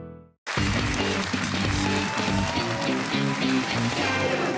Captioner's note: cheers and applause